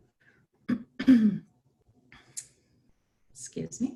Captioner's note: clears throat